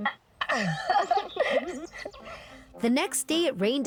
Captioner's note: laughing